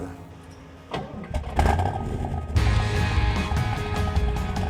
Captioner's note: engine starts and rock music plays